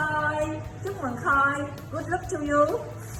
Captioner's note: speaking in a foreign language